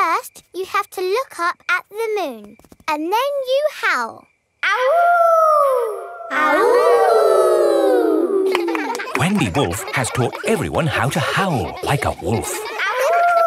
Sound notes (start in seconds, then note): 4.8 howling; 6.7 kids howling